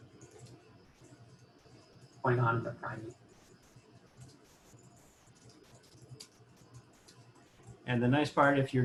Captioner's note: typing; typing